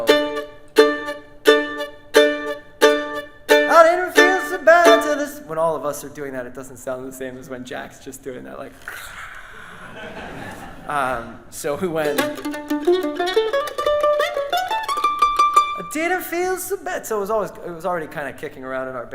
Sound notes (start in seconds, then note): 0.0 mandolin playing; 9.2 audience laughs; 9.2 soft scream; 11.8 mandolin upbeat music